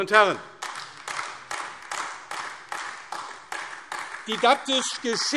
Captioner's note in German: Beifall AfD